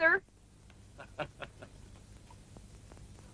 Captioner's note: laughs